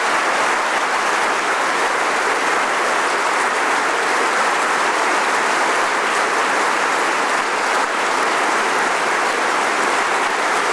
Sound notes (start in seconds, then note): 3.7 applause